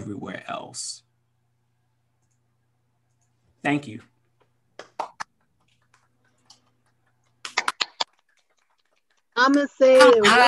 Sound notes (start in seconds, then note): 5.0 applause